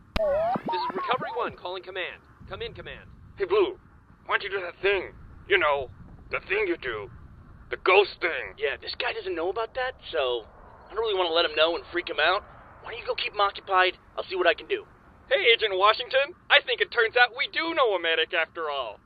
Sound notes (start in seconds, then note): 0.2 radio tuning; 4.2 soto-voice